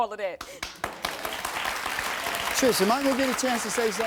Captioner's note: audience applauding